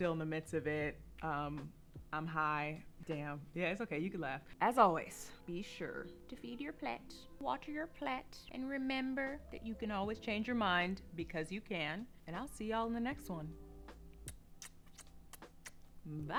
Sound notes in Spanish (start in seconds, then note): 12.3 Besos